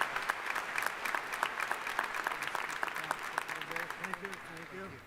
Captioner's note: applause